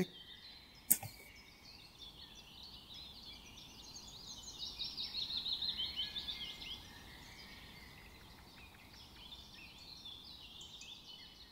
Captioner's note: bird sounds and the sound of cutting the pen with a knife